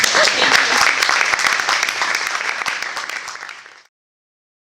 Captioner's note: applause